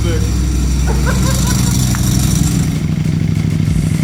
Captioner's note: laughing